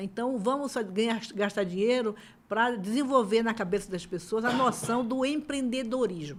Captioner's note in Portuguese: limpando a garganta